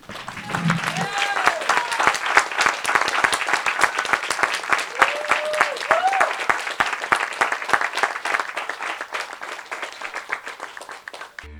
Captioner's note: applause